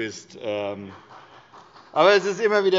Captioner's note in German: Beifall bei Abgeordneten der SPD